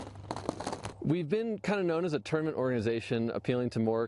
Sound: golf balls fall

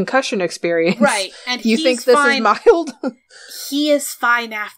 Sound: laughs

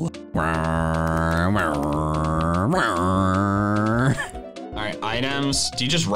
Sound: makes car engine noises

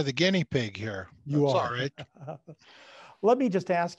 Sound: laughs

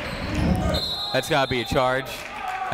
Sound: whistle blowing

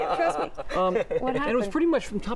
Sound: laughter

